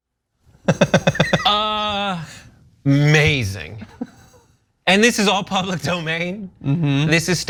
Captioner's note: laugh